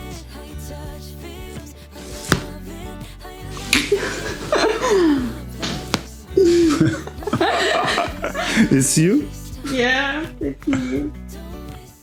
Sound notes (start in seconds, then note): 0.8 crunches of bones; 3.5 laugh; 5.6 crunches of bones